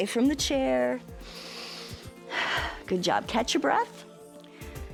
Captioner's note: inhales and exhales